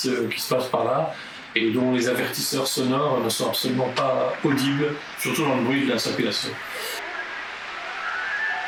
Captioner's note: street noise